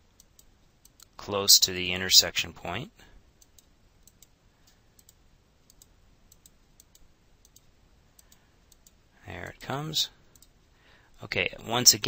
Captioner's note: silence